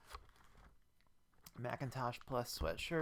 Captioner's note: eating chips